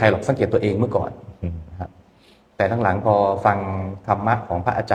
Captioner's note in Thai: เสียงสูดหายใจ